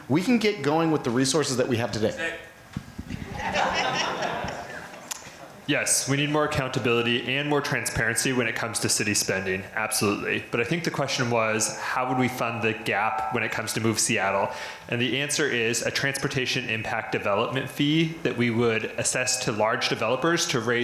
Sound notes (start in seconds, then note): 3.2 crowd laughter